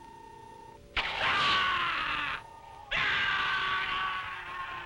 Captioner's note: watchman screaming